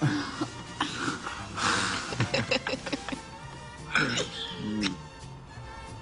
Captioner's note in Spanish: Risas